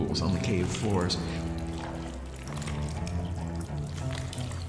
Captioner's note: sloppy sucking sounds